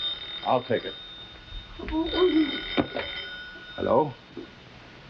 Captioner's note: phone ringing